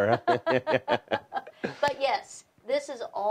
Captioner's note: laughing